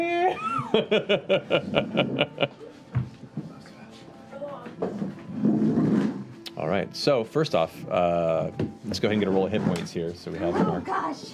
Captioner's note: laughs